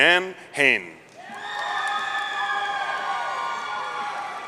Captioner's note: audience cheering